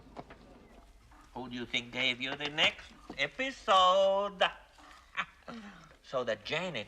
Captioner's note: Смеется